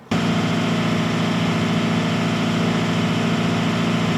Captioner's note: engine revving